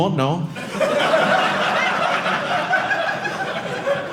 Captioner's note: audience laughing